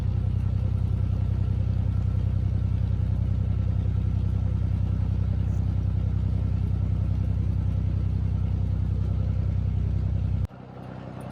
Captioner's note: narrowboat engine sounds